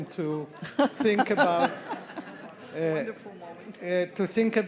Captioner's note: all laugh